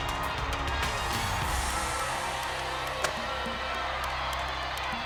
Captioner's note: audience cheers